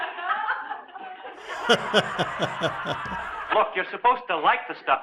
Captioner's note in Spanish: riéndose